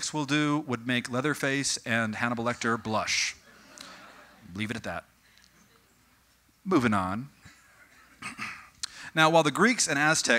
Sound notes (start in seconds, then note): 2.6 audience: Morbid chuckling